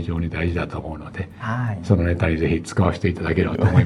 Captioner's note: laughs